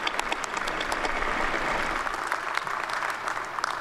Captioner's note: applause